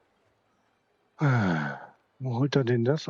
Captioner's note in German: seufzt